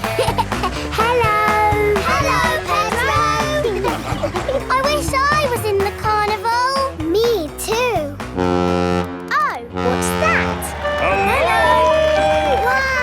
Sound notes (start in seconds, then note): 0.0 laughing; 9.7 horn bellowing